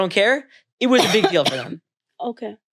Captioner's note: Zarna coughing